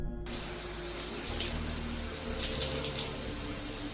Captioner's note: water splashing